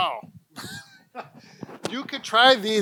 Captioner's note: laughs